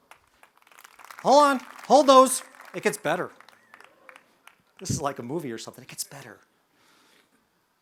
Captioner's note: sounds of applause